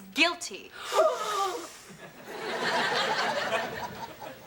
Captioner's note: all gasp